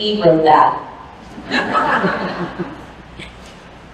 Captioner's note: laughter